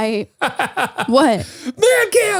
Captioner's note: laughs